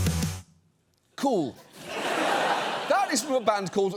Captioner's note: music concludes; audience laughs